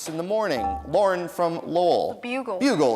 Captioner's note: dinging